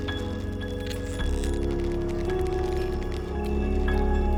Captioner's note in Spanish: huesos crujiendo